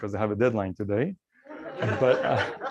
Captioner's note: laughter